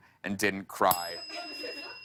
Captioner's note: ding